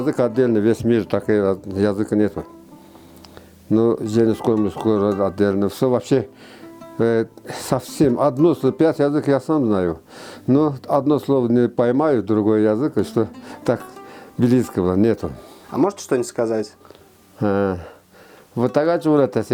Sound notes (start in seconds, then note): 10.7 Speaking Ketsh